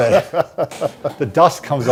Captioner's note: laughing